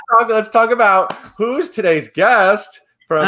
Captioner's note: claps hands